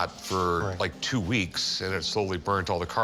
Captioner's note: none